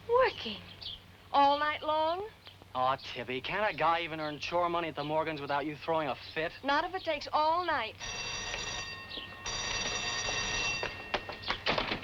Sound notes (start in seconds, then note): 8.0 bell dinging